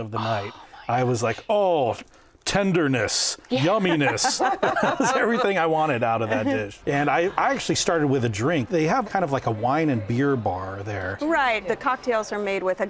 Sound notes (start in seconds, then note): 3.6 laughing